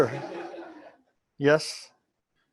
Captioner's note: laughter